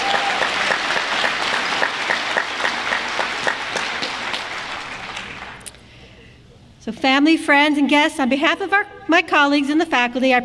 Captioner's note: applause